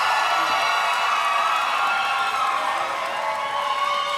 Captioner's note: applause